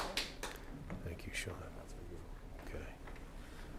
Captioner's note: applause